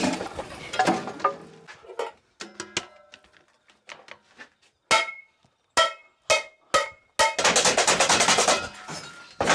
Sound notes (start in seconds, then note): 2.3 metal dings; 4.7 pots clang; 7.4 frantic rattling